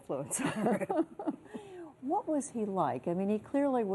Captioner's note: laughter